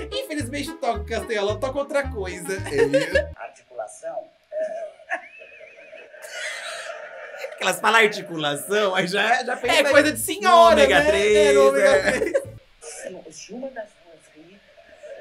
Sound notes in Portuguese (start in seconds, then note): 4.6 risos